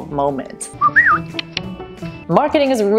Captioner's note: whistle click